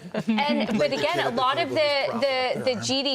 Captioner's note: laughter